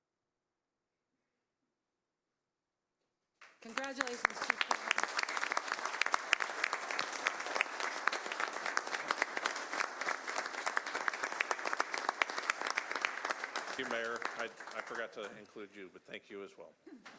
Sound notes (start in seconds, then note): 10.6 applause